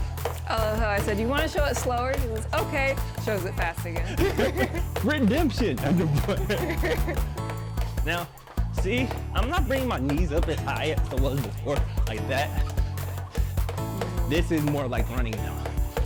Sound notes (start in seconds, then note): 4.0 both laugh; 5.9 laughs